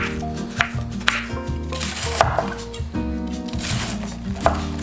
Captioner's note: cabbage crunching